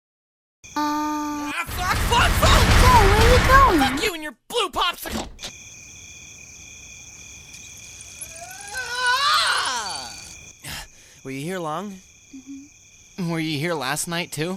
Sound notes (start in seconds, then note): 0.6 thas a lotta crickets mayn; 10.7 sharp dispersing of breath